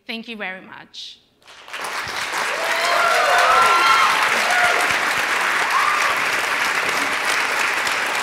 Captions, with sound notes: Thank you very much. [APPLAUSE]